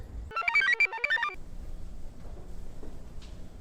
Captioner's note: computer chirps